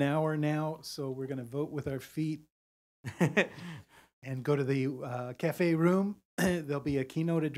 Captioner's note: laugh